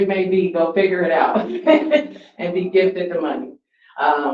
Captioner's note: laughs